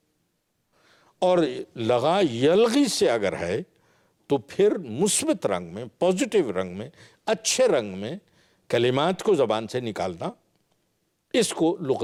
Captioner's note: Arabic; Arabic